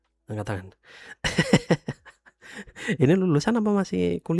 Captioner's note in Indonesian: tertawa